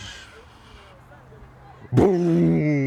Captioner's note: whispers